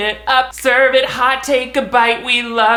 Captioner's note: snaps